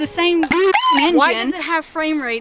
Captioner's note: Bidoof squeaks